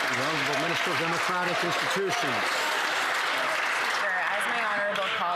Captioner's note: some Applause